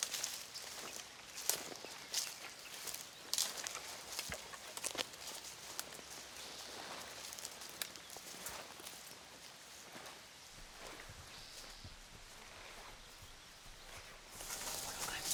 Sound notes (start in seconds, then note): none